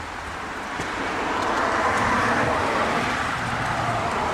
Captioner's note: traffic Noise